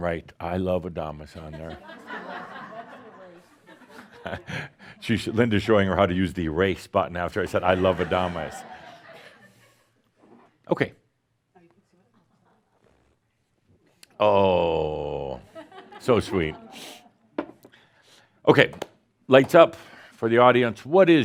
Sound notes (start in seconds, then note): 2.5 some laughter; 7.7 more chuckles; 15.5 more chuckles